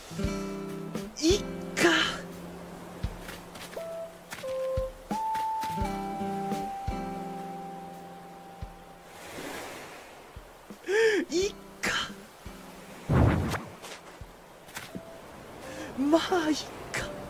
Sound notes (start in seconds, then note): 10.8 inhales